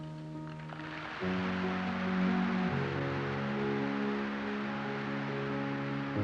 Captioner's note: applause